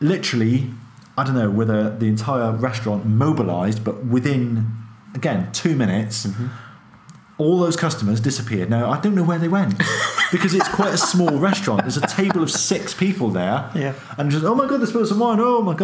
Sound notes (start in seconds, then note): 9.8 laughing